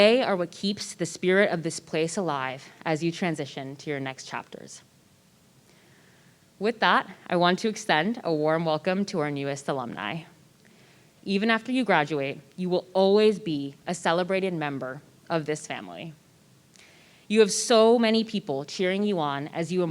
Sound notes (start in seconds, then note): none